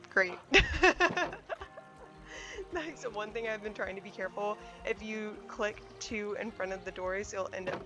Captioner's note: laughs